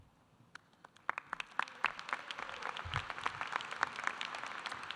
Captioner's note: audience applauding